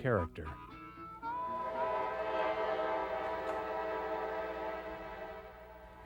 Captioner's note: train Whistle